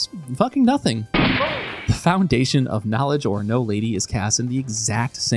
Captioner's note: gunshot